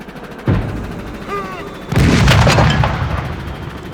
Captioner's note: gunshots